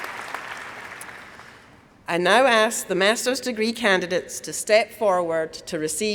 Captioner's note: applause